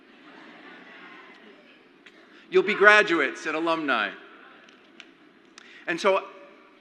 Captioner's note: crowd laughs